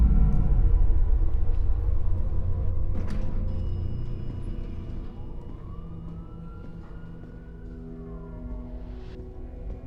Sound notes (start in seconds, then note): 4.0 siren wails in distance